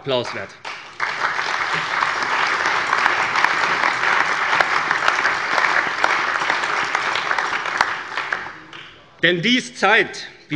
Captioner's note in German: Lebhafter allgemeiner Beifall